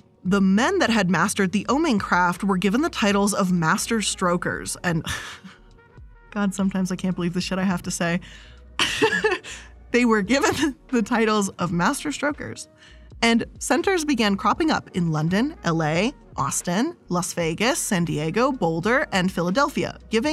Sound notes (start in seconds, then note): 5.1 laughs; 8.8 laughs